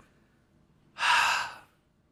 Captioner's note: sigh